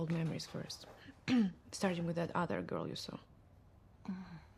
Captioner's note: clears throat